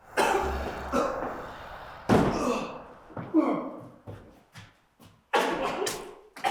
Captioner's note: Jacob coughs; ghostly whisper; Jacob coughing